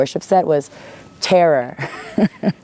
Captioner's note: laughs